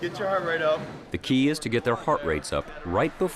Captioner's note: voiceover